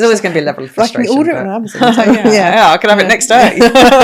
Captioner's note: laughing; laughing